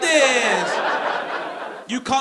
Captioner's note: audience laughing